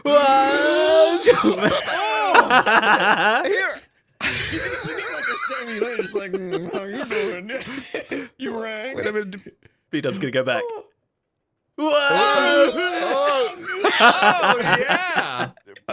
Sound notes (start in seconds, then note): 2.2 laughs